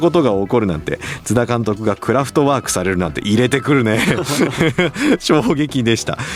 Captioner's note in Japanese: 笑い; 笑い